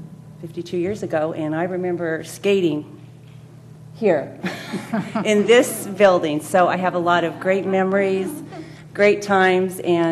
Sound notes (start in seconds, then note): 4.5 laugh